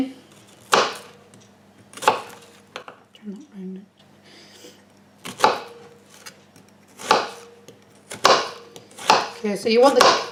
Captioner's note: chopping sounds